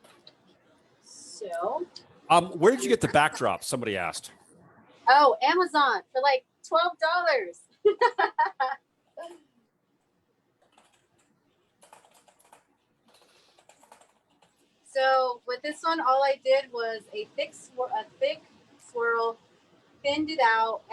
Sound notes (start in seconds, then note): 7.8 laughs